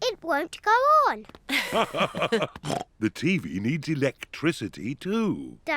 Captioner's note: both laugh